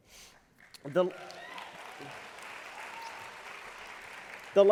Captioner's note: applause